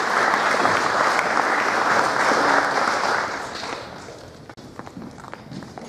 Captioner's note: applause